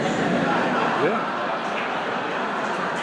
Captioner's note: laughter